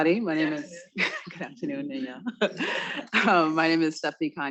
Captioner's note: laughs